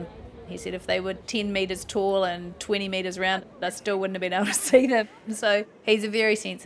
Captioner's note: chuckles